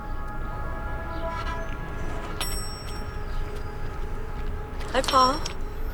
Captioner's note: bell dings